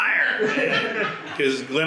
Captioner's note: all laugh